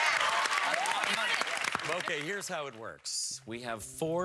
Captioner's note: cheers and applause